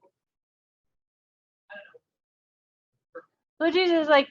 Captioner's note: audio drops